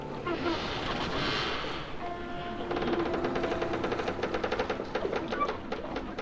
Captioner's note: boat creaking